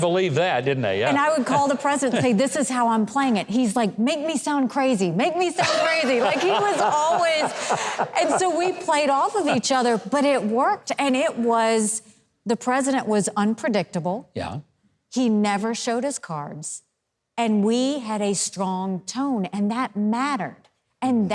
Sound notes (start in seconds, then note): 5.6 audience laughs; 5.6 Huckabee laughs